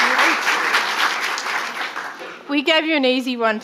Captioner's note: audience applauding